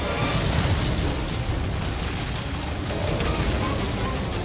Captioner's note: fuel explodes